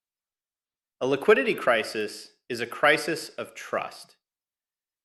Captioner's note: emphasis